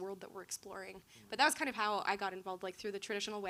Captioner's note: none